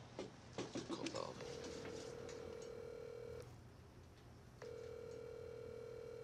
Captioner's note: line ringing